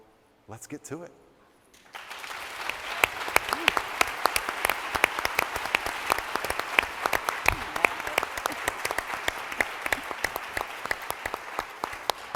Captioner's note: applause